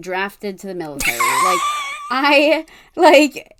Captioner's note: wheeze laughs